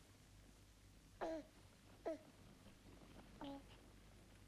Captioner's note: baby cooing